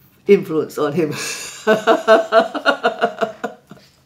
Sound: laughing

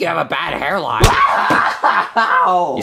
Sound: whimpers

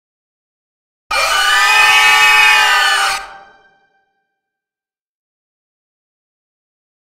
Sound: sound of scream

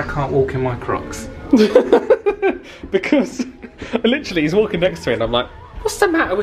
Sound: laughs

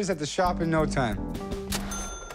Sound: ding

